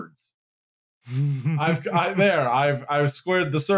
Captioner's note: chuckles